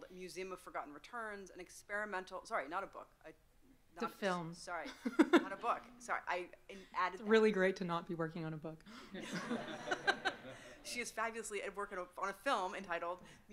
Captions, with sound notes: Museum of Forgotten Returns, an experimental, sorry, not a book. - The film. (chuckles) - Sorry. Not a book, sorry. I added- - It's really great to not be working on a book. (audience laughing) - She's fabulously at work on a film entitled,